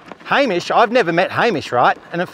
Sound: none

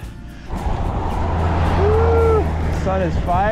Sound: engine whirs softly

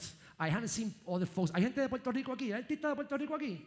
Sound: speaking in foreign language

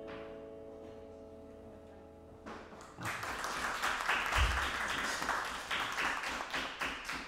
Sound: applause

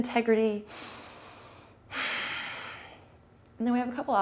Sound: breathes in and out deeply

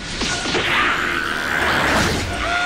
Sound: Cell screaming; lady and Kid screaming

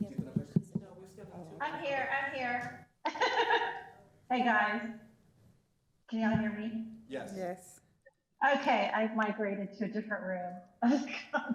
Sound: away from microphone

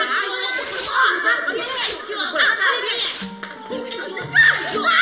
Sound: both screaming

